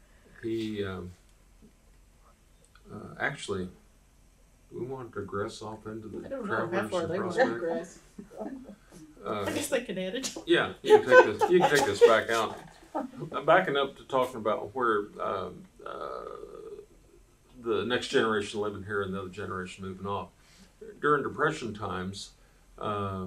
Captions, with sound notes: Actually, do we want to digress off into the Travelers and Prospect? I don’t know how far they want to digress. (Laughs) I’m backing up to talking about where the next generation living here and the other generation moving off.